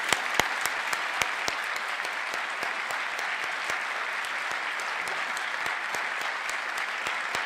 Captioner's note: applause